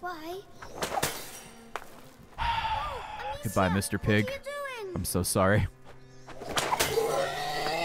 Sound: heavy sigh

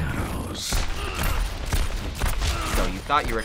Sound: alternating gunshots

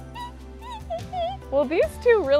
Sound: laughs

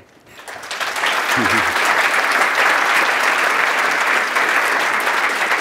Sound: applause

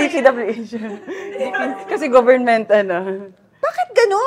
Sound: laughs

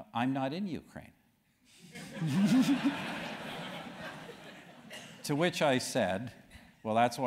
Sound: laugh

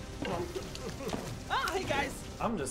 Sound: moaning and crying

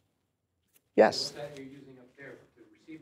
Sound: voiceover

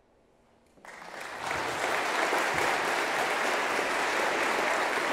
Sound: audience clapping

